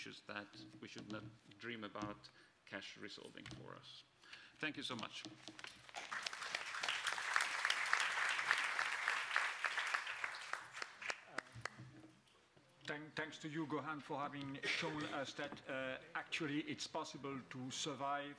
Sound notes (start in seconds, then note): 5.7 speaker Transition. Applause